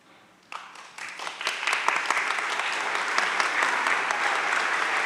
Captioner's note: crowd applauding